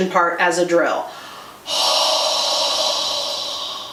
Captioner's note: exhales